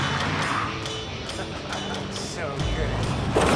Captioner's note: chuckles; laughter